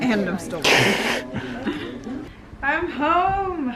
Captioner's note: laughs